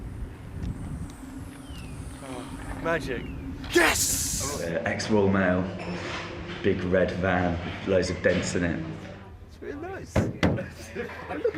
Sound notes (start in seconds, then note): 3.7 sighs